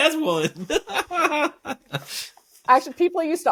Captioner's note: laughing